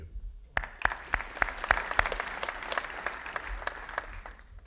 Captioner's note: audience applauding